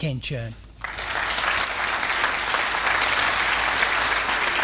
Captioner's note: applause